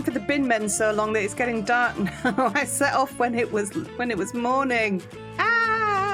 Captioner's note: laughing